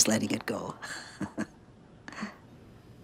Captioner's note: chuckling